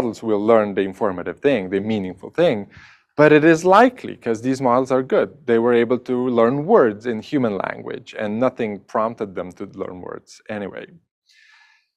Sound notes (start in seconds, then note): none